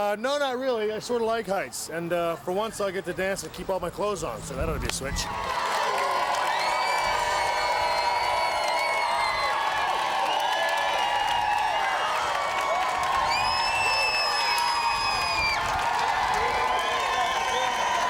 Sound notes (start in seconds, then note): 5.8 audience cheering and clapping